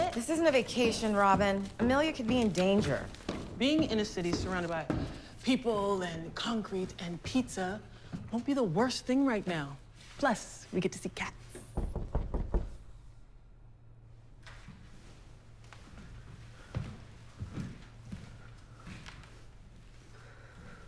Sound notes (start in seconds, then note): 11.7 knocking on door